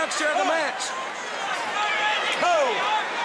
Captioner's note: crowd chatter